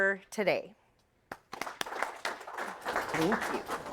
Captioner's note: all applauding